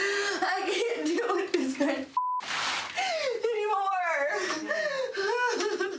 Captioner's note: beep